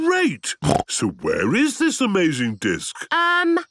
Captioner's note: snorting